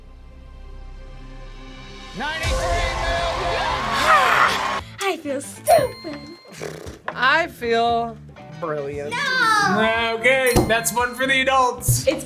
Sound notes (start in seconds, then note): 3.2 crowd cheers; 5.6 bell rings